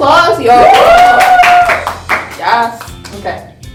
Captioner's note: cheering and clapping